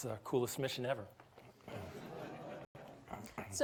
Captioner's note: audience titters